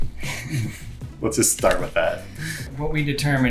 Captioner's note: laughs